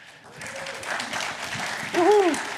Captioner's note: applause